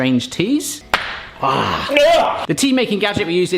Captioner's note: both yell